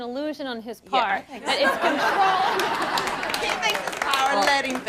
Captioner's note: audience claps and laughs